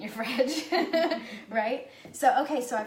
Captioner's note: laughs